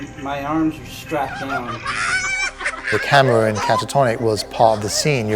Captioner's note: laugh